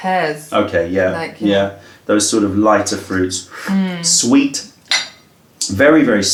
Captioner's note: sips tea